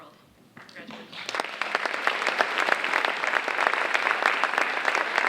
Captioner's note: audience applauding